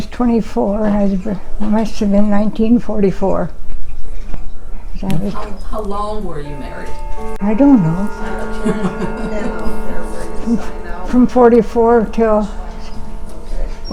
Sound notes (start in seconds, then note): 6.2 clock chimes; 8.6 chuckles